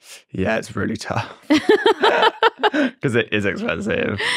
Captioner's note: both laugh